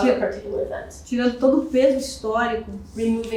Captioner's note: speaking portuguese